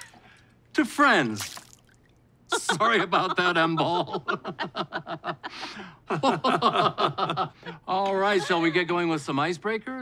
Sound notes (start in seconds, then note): 2.5 laughter; 6.1 forced laughter